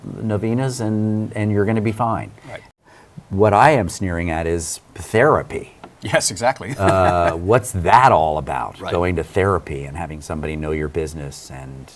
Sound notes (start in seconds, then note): 6.0 laughing